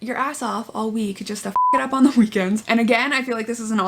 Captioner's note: beep